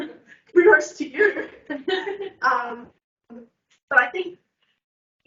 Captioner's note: laughs